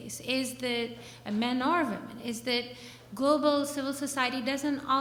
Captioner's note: slurs words